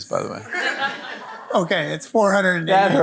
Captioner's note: audience laughing